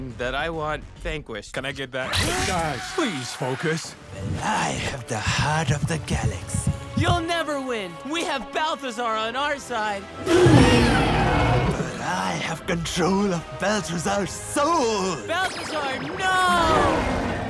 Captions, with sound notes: that I want...vanquished. -Can I get that?! -Guys, please focus! -Well, I have the heart of the galaxy... -You'll never win! We have Balthazar on our side! [Elephant and T-Rex Screams] -But I have control of Balthazar's soul! -Balthazar, no!!!